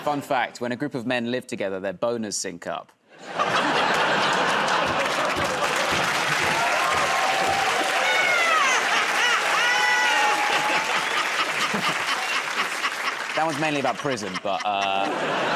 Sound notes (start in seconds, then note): 3.1 laughter; 7.0 cheering and applause; 11.6 laughing; 15.3 laughter